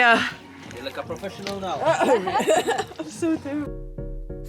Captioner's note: laughing